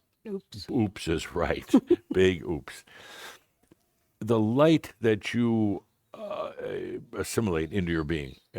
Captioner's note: giggles